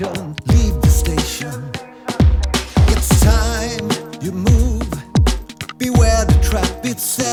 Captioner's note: processed vocals